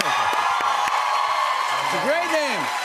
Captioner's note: cheers and applause